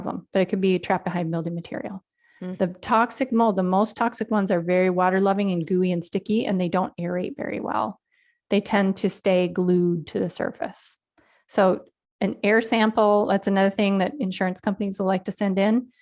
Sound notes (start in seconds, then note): none